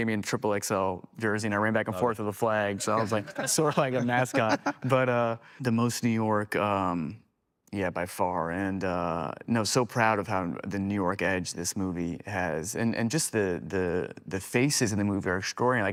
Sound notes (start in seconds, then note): 4.4 Cody chuckling